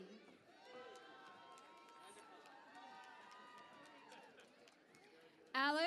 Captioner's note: cheering and Applause